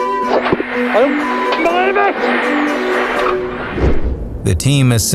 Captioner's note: beep